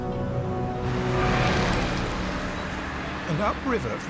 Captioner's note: traffic rumbling